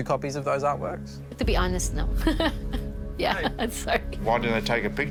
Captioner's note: laughs